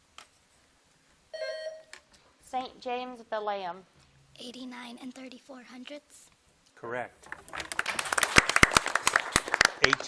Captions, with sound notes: (bell dings) - St. James, Valayam. - 89 34/100? - Correct. (audience applauding)